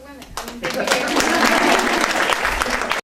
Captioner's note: clapping